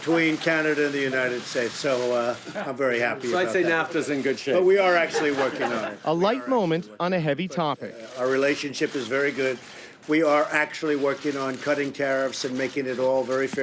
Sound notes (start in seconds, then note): 4.9 laughter